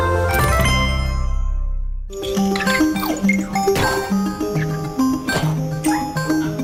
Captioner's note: Mojang sound